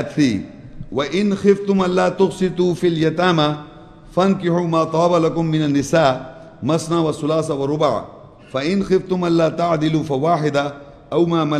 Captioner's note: Arabic